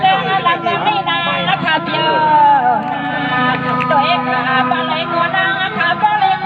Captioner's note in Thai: ปรบมือ